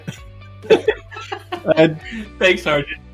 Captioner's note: laughs